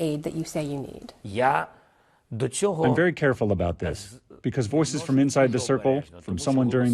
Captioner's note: through translator